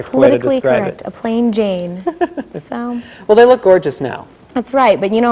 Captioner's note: laughs